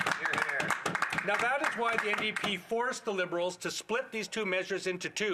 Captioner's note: some Applause